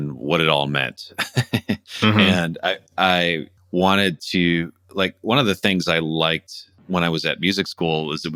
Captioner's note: laughter